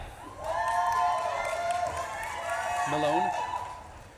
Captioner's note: audience claps and cheers